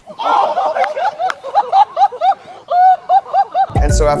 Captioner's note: people laughing